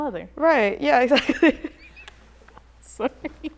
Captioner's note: laughter